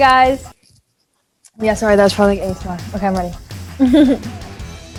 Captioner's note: chuckles